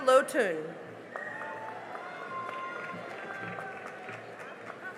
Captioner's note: cheering and applause